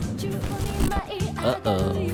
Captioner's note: fart noise